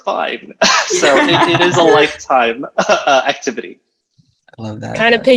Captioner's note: group laughing